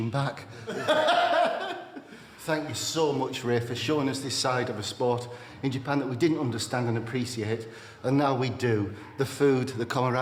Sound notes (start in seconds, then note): 0.6 Dave laughing